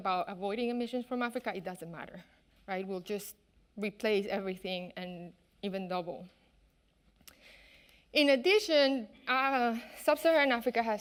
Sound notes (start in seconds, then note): none